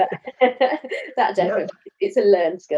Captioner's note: both laugh